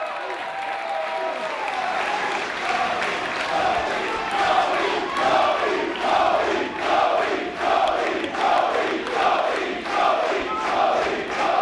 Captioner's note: applause